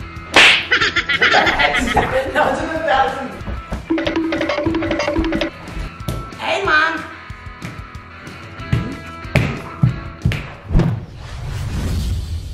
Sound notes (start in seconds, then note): 0.0 upbeat rock music; 0.3 slap smaking; 3.9 cartoon running; 7.6 feet stomping